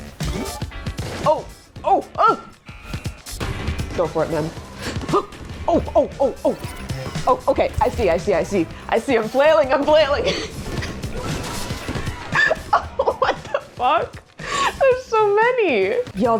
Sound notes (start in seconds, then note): 4.8 gasps; 12.2 laughs